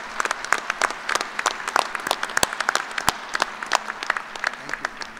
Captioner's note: applause